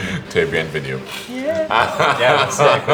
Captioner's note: he laughs